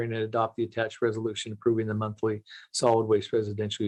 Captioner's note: reading quickly